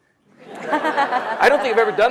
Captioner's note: audience laughs